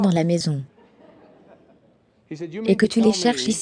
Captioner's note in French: rire de l'audience